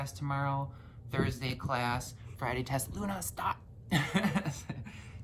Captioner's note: laughs